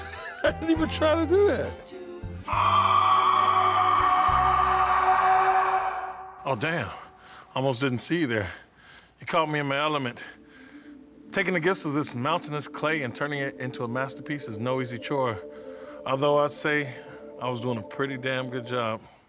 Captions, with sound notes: I didn't even try to do it. (screams) Oh damn. Almost didn't see you there. You caught me in my element. Taking the gifts of this mountainous clay and turning it into a masterpiece is no easy chore. Although I say I was doing a pretty damn good job.